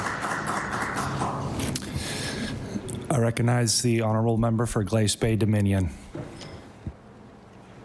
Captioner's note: applause